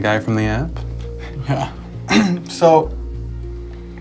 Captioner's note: clears throat